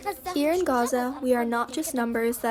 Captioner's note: through translator